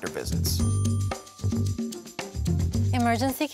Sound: bell dings

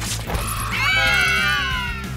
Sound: screaming

